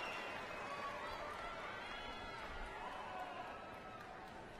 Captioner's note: cheers and applause